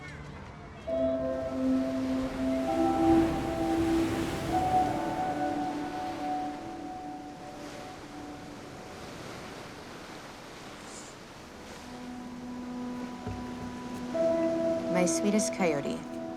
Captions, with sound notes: (waves crashing) (slow music) My sweetest coyote,